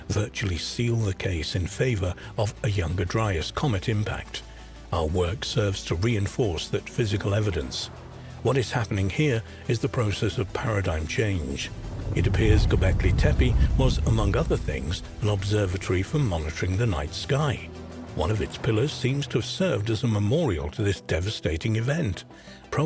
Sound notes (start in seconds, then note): 11.6 explosion booming